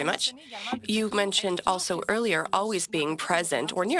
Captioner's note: speaking French